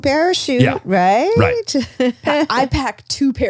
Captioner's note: laughs